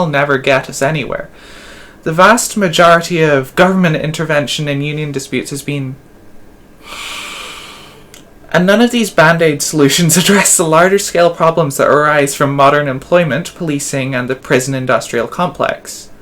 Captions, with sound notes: never get us anywhere. The vast majority of government intervention in union disputes has been… *inhales,* and none of these band-aid solutions address the larger scale problems that arise from modern employment, policing, and the prison-industrial complex.